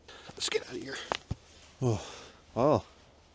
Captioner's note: sighs